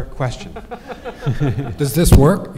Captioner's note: all laughing